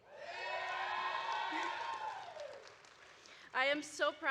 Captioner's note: graduates cheering